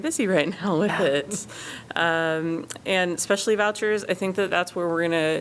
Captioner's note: laughter